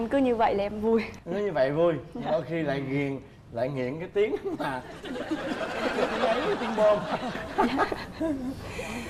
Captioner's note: laughing